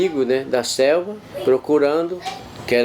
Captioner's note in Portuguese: vozes de crianças